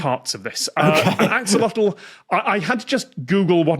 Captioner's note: laughs